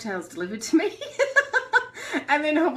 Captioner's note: laughter